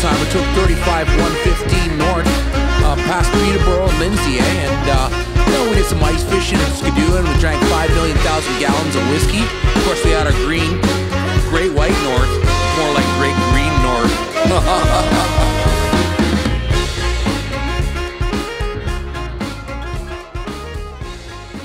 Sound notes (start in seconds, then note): 14.0 laughing; 16.3 upbeat music